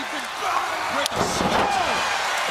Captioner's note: crowd cheering